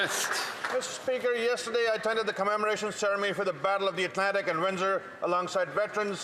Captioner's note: applause